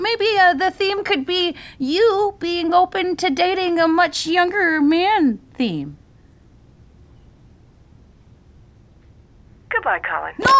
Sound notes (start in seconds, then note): 6.0 silence